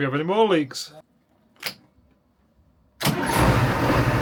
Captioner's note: engine noise